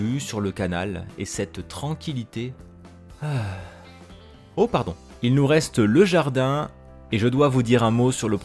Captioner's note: sigh